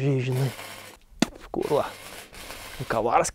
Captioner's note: spits